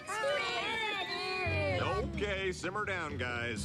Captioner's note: LGMs SHOUTING